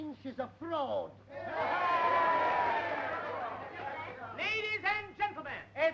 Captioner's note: audience yelling